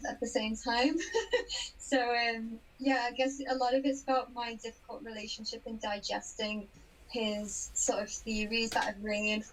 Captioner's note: laughs